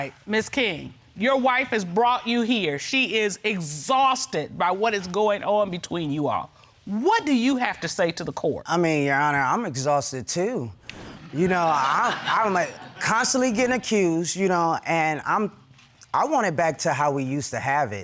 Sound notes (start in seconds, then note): 11.9 stutters